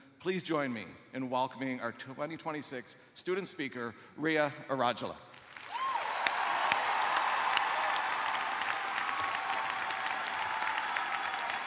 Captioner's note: cheers and applause